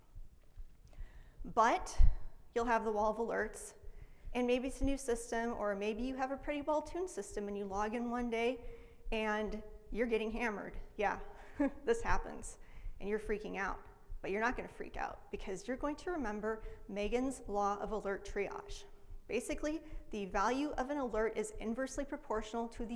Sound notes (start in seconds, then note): 11.4 laughs